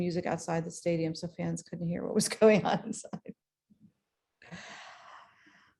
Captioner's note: laughs